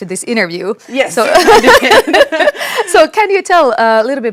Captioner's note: laughs